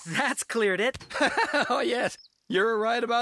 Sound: laughing

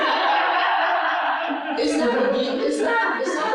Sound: laughter

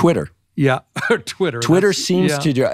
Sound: laughing

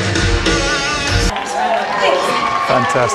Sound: audience applauds

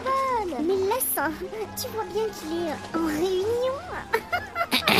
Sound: laughs

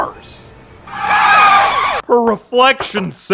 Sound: police sirens

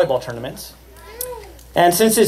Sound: cheers

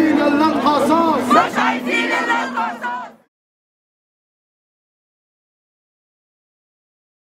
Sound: chants

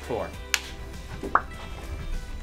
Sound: clapperboard clicking

